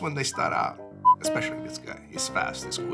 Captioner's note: beeping